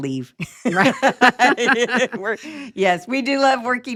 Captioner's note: laughing